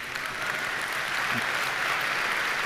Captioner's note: applause